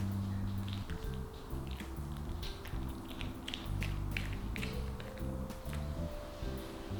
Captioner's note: busy chewing